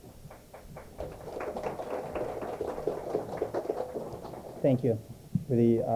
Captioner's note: applause